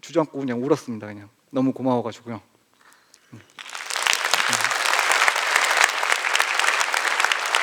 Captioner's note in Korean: 박수